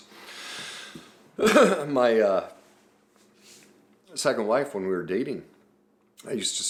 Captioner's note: coughs